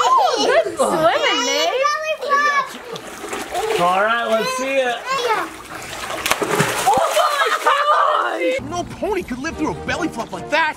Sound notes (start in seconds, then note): 6.2 water splashing; 7.3 laughing